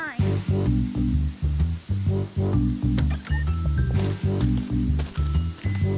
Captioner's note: cheerful music; rain drumming